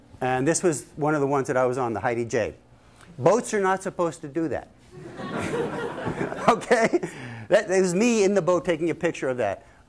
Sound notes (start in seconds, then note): 4.9 laughter